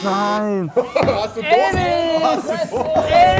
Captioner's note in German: Stimmengewirr